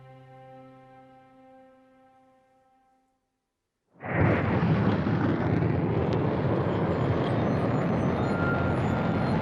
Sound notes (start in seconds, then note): 4.0 rocket firing